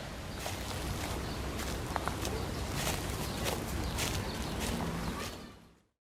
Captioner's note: walking on leaves asmr